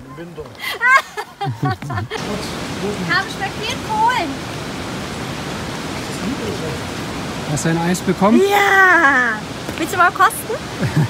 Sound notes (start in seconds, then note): 0.6 laughter